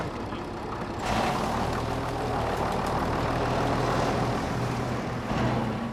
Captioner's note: engine rumbling